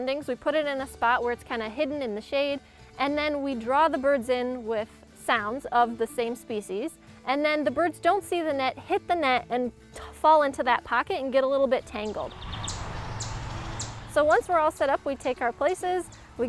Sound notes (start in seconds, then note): 11.9 birds calling in the wind